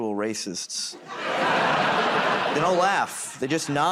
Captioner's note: laughter